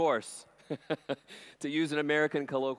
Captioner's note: chuckles